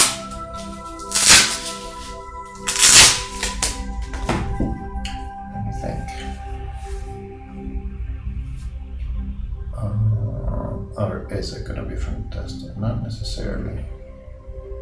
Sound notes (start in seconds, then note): 0.7 plastic tearing